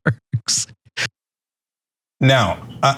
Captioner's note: laugh